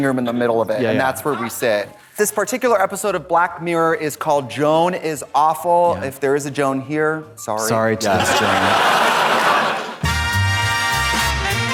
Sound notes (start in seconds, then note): 8.0 audience laughs; 10.0 upbeat jazzy music